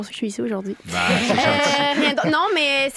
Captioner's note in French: rires